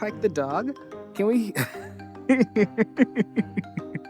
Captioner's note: laughs